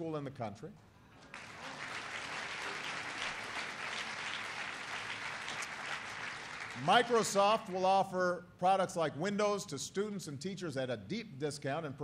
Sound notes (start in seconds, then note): 3.6 applause